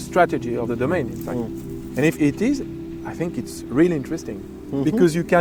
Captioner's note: murmurs with intrigue